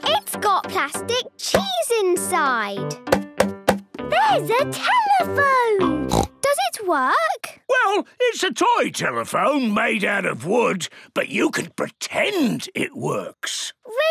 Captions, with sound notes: - It's got plastic cheese inside! - There's a telephone! (snorts) - Does it work? - Well, it's a toy telephone made out of wood. But you can pretend it works!